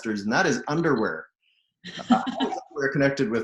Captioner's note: laughing